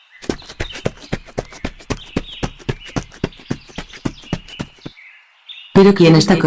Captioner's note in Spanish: Sonido de un sujeto corriendo